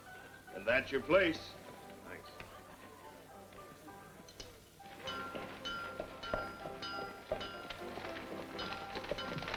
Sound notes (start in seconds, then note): 3.0 piano plays; 5.0 mallet clanking